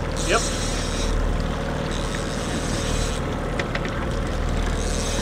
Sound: reel clicking in

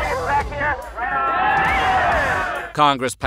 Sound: cheering

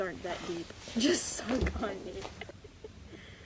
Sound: laughing

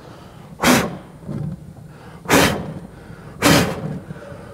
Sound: continues blowing

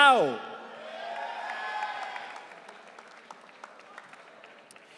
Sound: audience cheering

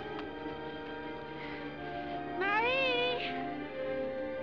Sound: breathing Heavily

